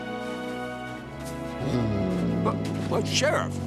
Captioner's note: snarling